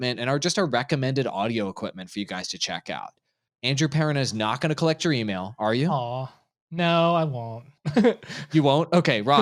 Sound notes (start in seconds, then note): 7.9 laughing